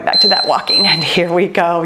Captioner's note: timer beeps